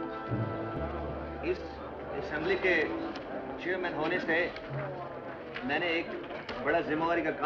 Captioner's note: man Speaking Hindustani